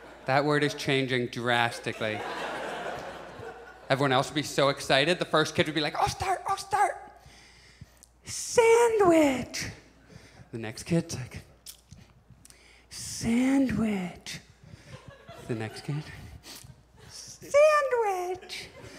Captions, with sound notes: That word is changing drastically. [Audience laughs] Everyone else would be so excited. The first kid would be like "I'll start, I'll start!" [Whispering] "Sandwich." The next kid. [Whispering] "Sandwich." The next kid. [Whispering in higher tone] "Sandwich."